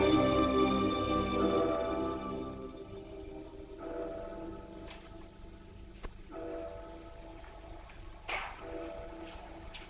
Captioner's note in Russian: звон колокола